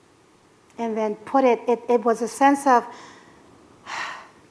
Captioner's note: exhale